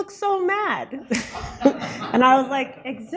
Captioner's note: laughter